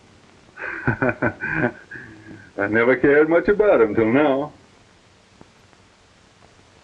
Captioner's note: laughs